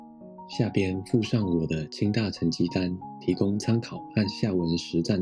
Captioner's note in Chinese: 中文